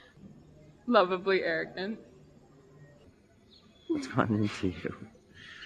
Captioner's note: laughs